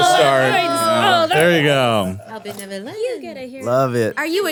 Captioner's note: awws and excited crosstalk